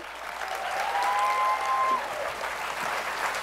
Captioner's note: applause